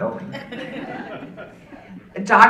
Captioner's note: audience laughing